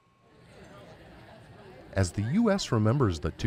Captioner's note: crowd chattering